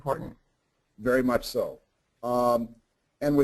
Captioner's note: voiceover